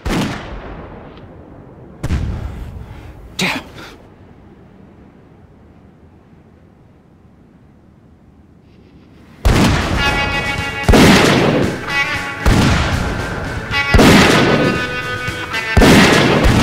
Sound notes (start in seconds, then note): 2.0 gun fires; 9.6 suspenseful western music